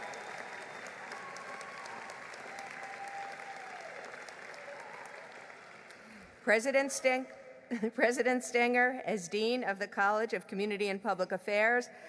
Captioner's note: applause